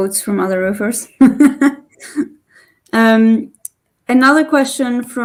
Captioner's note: chuckles